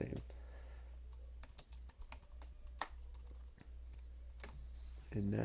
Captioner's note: typing